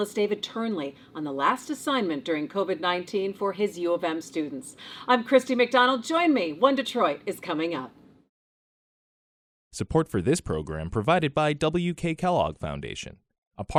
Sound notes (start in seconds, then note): 9.8 voiceover